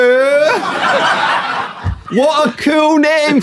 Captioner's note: people in room laughing